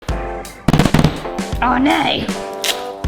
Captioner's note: bright music; pineapples thudding